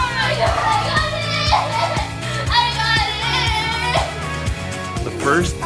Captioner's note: cries